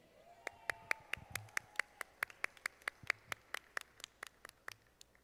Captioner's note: audience applauding